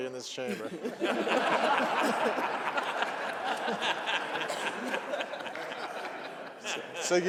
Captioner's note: laughter